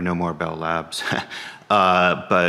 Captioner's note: chuckles